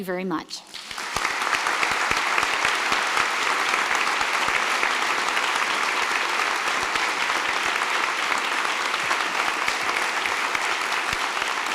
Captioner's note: applause